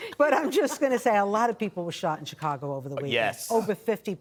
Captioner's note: laughter